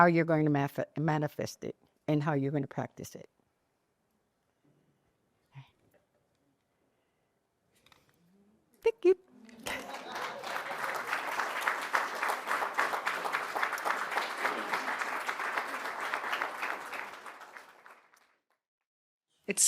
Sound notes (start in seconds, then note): 13.0 applause